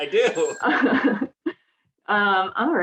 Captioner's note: both laughing